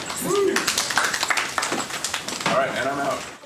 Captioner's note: applause